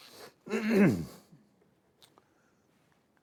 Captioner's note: clearing throat